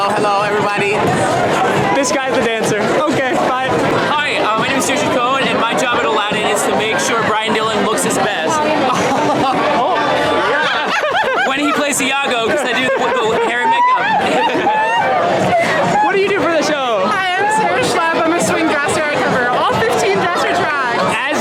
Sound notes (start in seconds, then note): 8.9 laughs; 10.4 laughing; 13.9 laughing